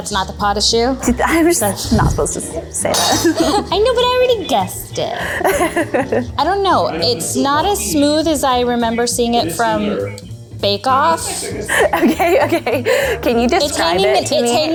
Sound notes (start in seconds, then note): 5.3 laughs